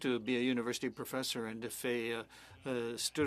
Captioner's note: speaking French